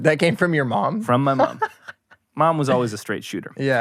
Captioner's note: laughing